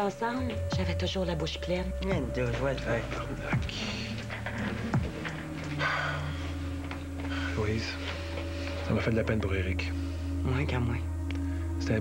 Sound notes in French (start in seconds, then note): 5.8 Soupir